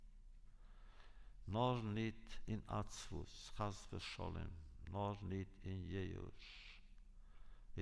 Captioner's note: Yiddish